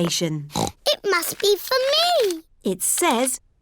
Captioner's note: snorts